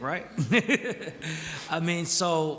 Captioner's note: chuckles